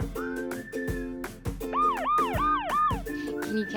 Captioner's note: lighthearted music; police siren wailing